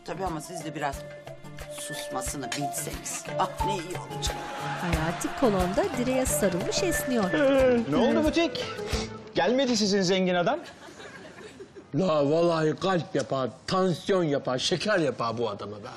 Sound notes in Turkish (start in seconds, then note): 7.3 Esneme sesi